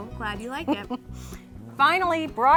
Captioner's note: laughing